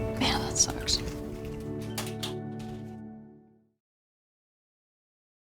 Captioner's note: melancholy electronic music; door clicks shut